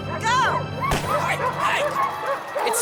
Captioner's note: dogs barking; gun fires